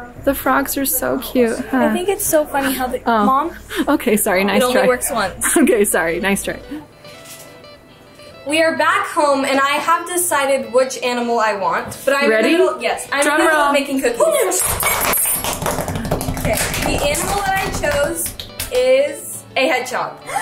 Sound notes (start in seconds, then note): 7.3 happy music; 14.7 hands slapping counter